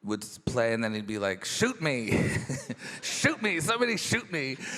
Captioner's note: chuckles